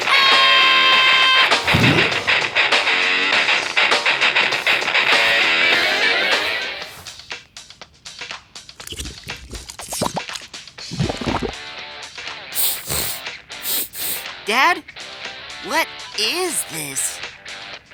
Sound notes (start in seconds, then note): 0.0 screaming; 12.5 sniffing